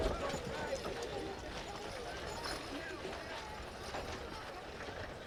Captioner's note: people chattering